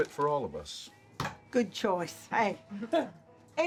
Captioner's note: hits counter